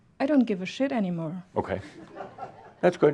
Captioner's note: some chuckles